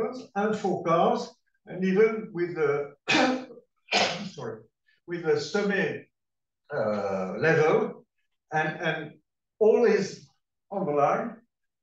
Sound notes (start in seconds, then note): 3.1 clears throat; 6.0 non-english speech